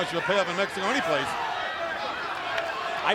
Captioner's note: crowd chatter